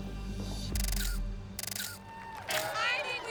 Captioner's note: <i> camera shutter clicking</i>